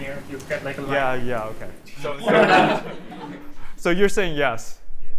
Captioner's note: laughter